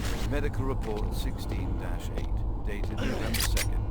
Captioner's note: grunting